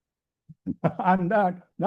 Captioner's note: laughs